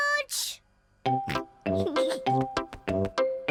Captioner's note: snorts; both laughing; giggles